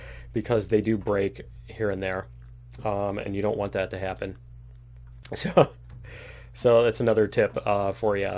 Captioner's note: laughs